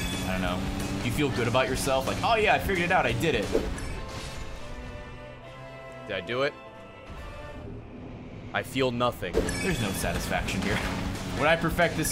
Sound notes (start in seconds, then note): none